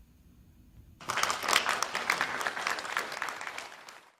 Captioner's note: audience applauds